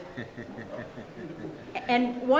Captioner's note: audience chuckling